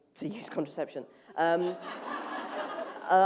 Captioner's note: laughter